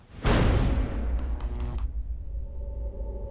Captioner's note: energy crackles